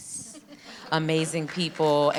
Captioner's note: audience clapping